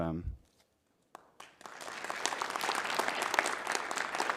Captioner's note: audience applauding